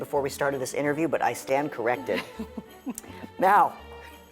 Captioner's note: laughs